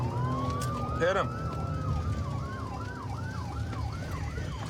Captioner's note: sirens wailing